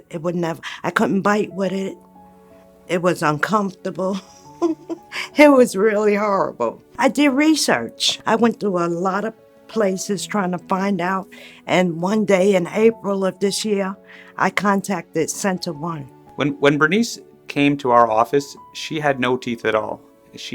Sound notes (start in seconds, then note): 4.0 laughs